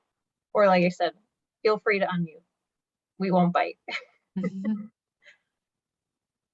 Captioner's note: laughs